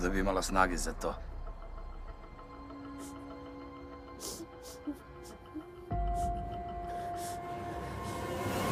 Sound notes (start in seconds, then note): 4.0 Aleks sobbing